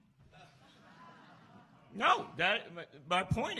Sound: laughs

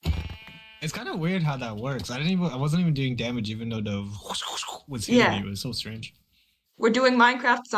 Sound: makes trident sound effects

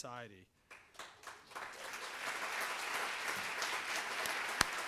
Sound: audience applauds

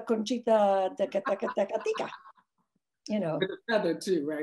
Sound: speaks in foreign language

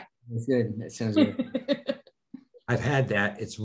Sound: laughing

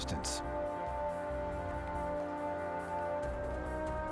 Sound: french dialogue

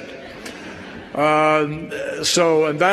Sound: laughter

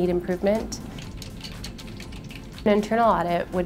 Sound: typing sounds

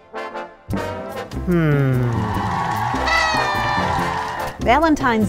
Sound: cheering and horn sounds

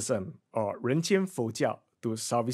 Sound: explains in foreign language

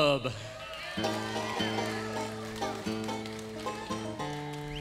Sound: crowd cheering

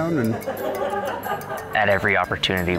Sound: all laughing

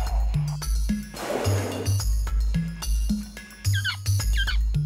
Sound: trumpets; exhales; chirping

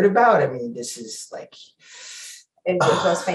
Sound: sighs

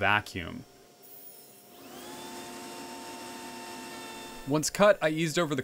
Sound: router being used

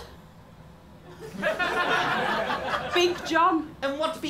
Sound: laughter

